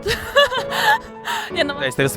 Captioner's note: laughter